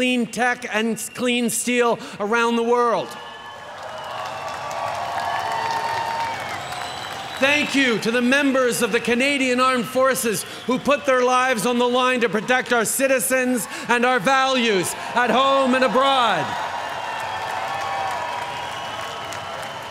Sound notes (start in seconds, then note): 1.5 cheering; 17.0 cheering